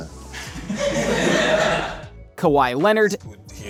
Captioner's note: people laughing